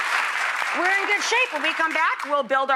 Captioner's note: applauding